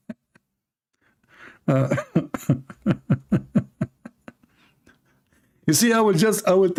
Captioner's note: Ketawa